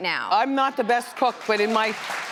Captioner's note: crowd clapping